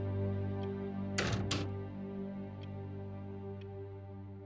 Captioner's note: door clicks